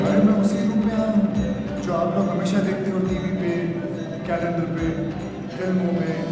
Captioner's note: non-english speech